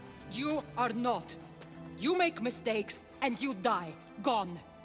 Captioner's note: none